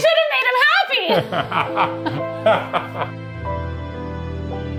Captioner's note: laughing; sad music